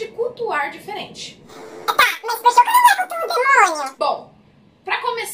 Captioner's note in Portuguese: com voz modificada, imitando fala de outra pessoa